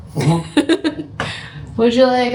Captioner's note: laughing